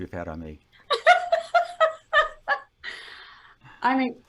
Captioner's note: laughs